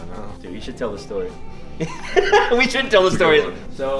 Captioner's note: laughing